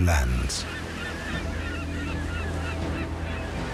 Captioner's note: birds calling